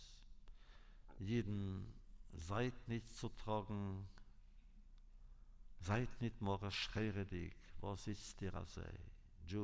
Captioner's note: Yiddish